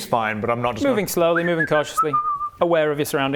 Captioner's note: whistling obliviously